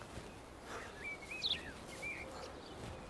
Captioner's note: ragged breathing